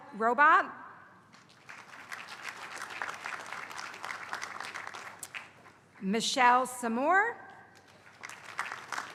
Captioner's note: applause; applause